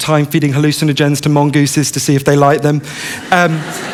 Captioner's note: laughter